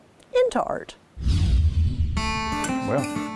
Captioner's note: wind whooshing